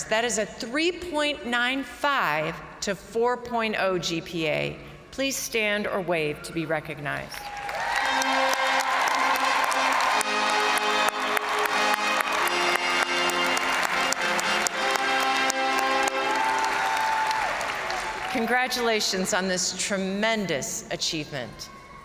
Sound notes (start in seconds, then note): 7.4 crowd cheering; 7.8 triumphant music; 14.3 crowd applauding